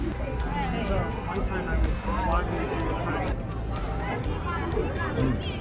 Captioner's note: people chatter